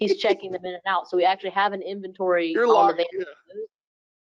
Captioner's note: speaking faintly